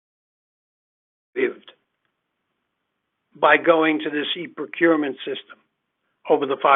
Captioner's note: speakers voice fades